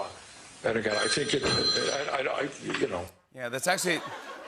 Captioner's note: ring; laughter